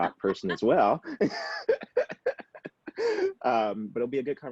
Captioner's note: laughs